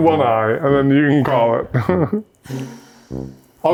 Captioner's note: chuckles